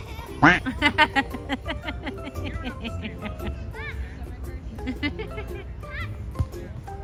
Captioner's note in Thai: เสียงหัวเราะ